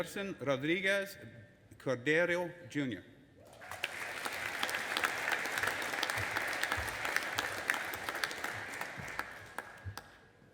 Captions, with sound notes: Gerson Rodrigues Cordeiro Junior. (AUDIENCE APPLAUDING AND CHEERING)